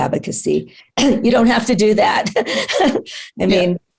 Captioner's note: laughs